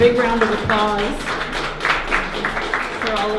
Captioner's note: applauses